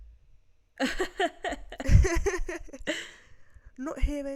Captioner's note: giggle